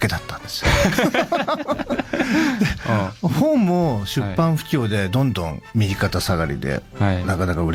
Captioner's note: laughs